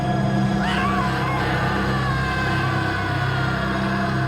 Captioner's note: screaming